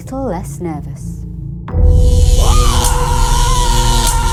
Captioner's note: screaming